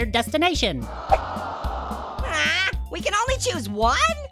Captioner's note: audience and Orange sighs